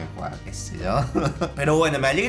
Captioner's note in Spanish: Risas :V